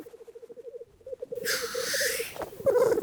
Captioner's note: hisses